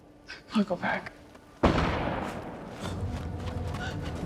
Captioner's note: gunshot